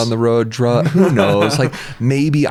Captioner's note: laughs